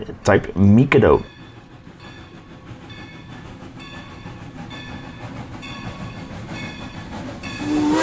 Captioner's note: train soudn whissles eand Bell